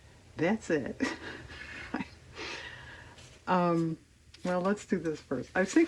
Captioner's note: laughs